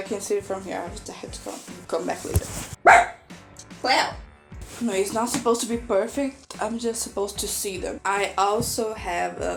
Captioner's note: cléo barks